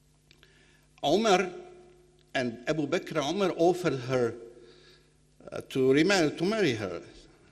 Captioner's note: speaking foreign language